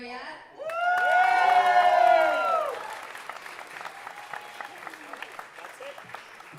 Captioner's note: audience cheering and applauding